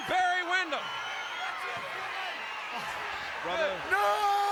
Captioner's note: applause